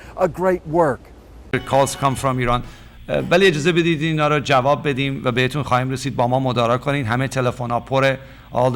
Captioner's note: speaking Arabic